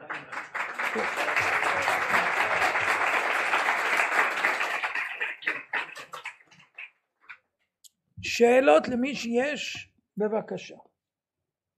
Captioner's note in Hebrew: מחיאות כפיים